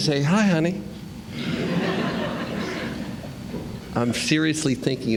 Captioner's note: laughter